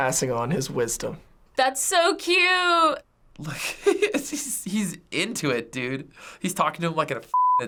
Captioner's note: chuckles